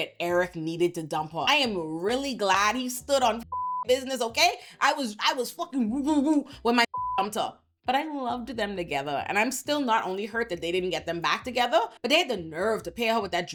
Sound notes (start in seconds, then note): 6.9 beep